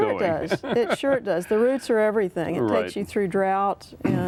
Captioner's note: laughter